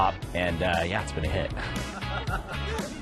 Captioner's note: laughter